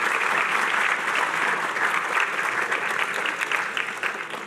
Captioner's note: applause